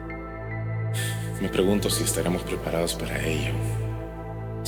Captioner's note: sigh